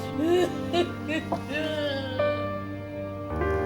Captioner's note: sobbing